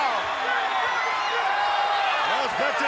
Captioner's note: spectators shout